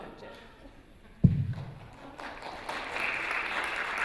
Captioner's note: applause